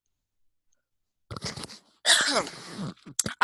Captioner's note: sneeze